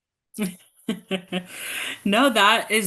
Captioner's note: laughing